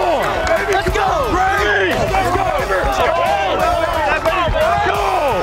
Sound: team cheering

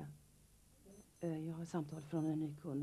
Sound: beeping

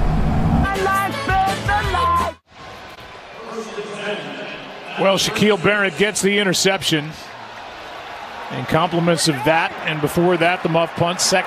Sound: engine humming

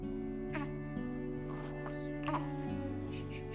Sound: cooing

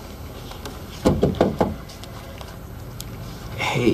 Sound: knocking at door

